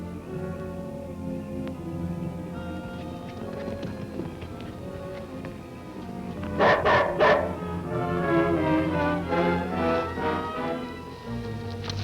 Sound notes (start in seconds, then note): 6.5 barking; 9.0 dramatic music